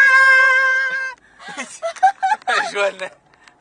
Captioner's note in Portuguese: Risos